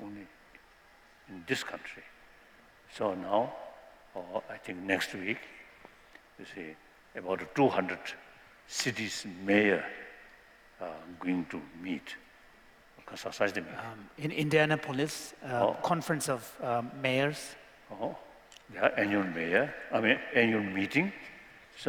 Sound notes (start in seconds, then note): 13.0 non-english